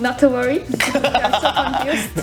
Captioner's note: laughing